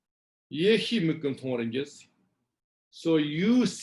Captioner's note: tibetan